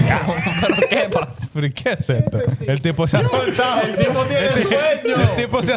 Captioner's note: speaking In Foreign Language